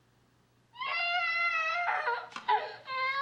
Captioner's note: allison crying